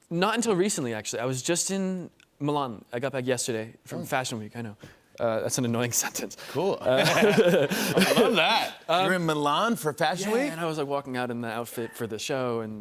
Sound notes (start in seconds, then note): 6.8 laughter